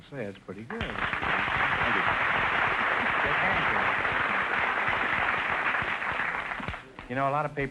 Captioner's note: applause